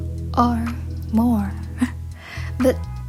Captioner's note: laughs